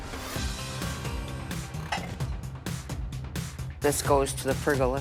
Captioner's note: intense music; objects clattering